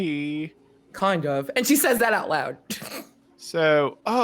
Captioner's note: snorts